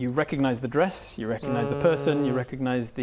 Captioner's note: dreadful Soot groan